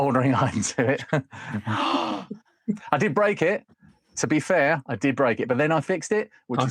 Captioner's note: gasps